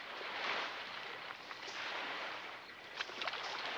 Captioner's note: water splashing